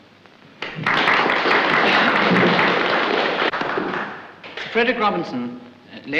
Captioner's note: applause